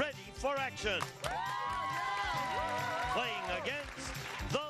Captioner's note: family cheers